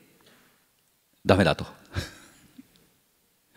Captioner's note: chuckles